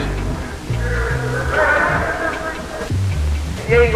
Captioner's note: people cheering